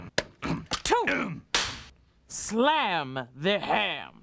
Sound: cracks pointer

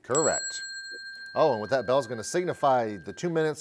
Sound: bell chimes

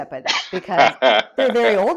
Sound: laughs

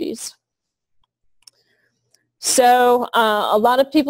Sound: pause

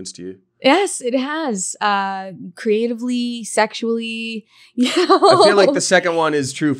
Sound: laughs

